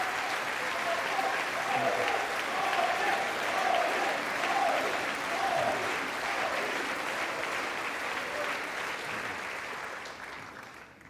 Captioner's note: applause